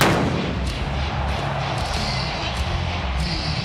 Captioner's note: pyros exploding